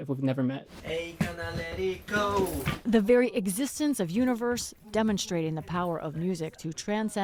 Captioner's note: voice-over